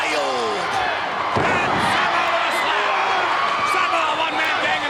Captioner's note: wrestler thudding